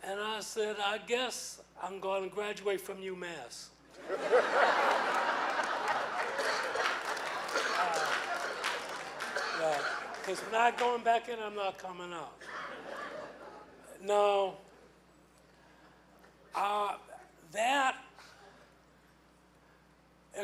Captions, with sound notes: and I said I guess I'm gonna graduate from U Mass. (laughing) (clapping) It's not going back in and I'm not coming out. Now that, existential point for me